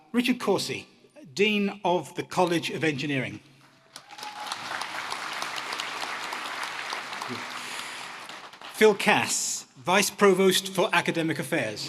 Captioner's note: applause